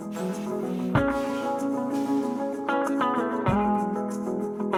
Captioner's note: air brakes hissing